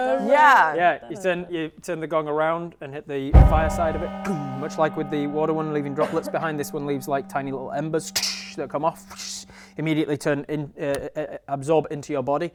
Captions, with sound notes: Yeah Yeah You turn the gong around and hit the fire side of it *gong* Much like with the water one leaving droplets behind this one leaves like tiny little embers that come off Immediately absorb into your body